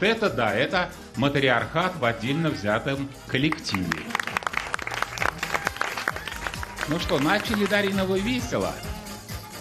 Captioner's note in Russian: аплодисменты